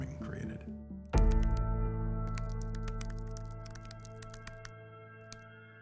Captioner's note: keyboard clicking